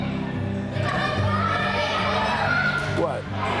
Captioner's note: children yelling